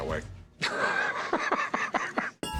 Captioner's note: laugh